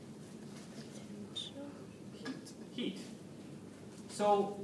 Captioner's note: background comments